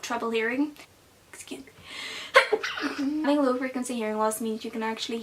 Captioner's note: achoo